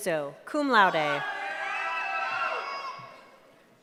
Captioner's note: cheering